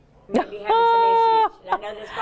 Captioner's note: Kara exclaims